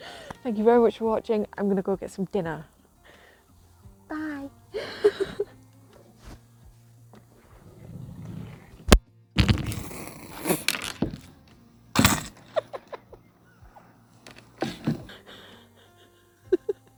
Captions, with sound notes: Thank you very much for watching, I'm going to go and get some dinner. Bye! [Phone falls as I drag it with me] [Off camera giggling]